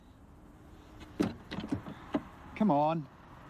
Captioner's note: door handle rattles